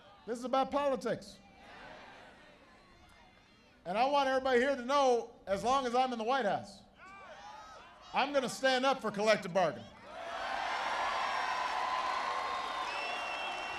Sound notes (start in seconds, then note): 10.3 applause